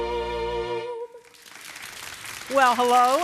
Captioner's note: applause